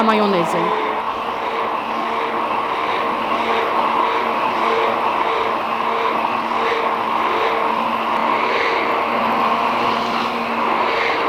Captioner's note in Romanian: sunetul blenderului